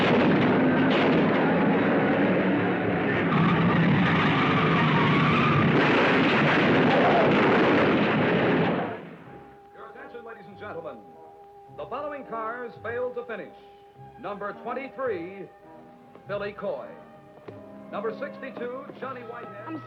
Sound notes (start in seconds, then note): 0.1 cars crashing; 3.7 tires squealing; 6.2 cars crashing